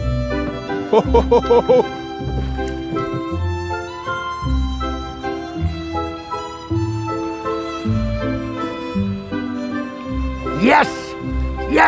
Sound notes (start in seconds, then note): 0.9 chortles in satisfaction